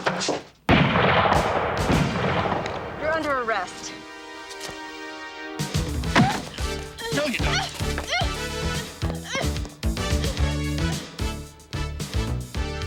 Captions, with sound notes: (gun firing) - You're under arrest. (body thudding) (girls squealing) - No you're not. (upbeat music)